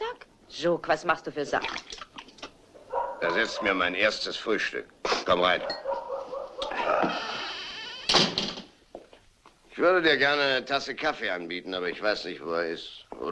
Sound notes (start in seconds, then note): 7.0 door closes